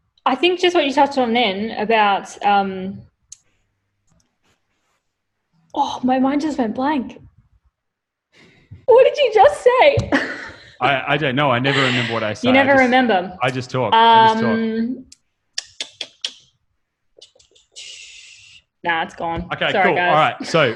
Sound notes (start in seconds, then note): 8.3 both laughing; 11.6 both laughing; 15.5 clicks her tongue